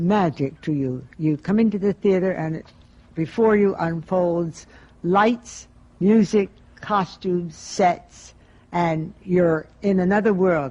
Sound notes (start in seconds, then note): none